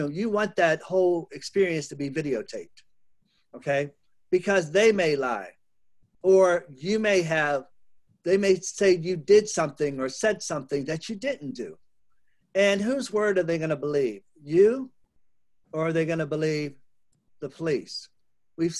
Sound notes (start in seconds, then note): none